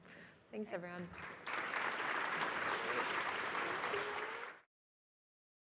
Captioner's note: applause